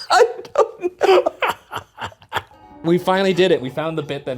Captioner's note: both laughs